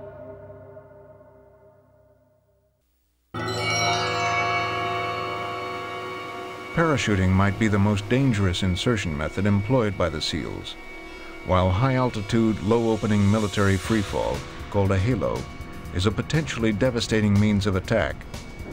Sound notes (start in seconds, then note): 7.0 voiceover